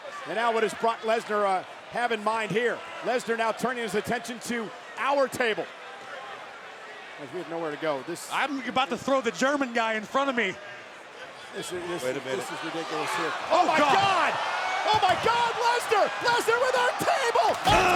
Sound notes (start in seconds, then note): 12.4 overlapping chatter